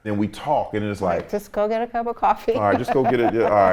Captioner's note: laughs